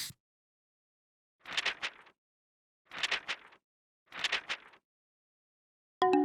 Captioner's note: paper shuffling